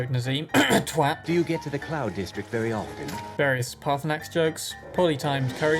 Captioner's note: cough